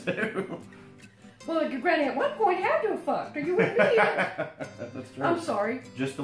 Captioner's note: laughter